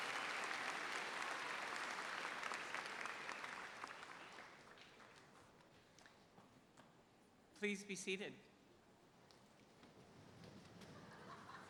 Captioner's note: cheers and applause